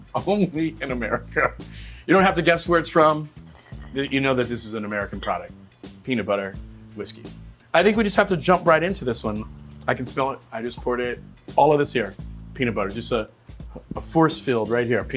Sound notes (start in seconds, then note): 0.3 laughing; 9.2 whiskey pouring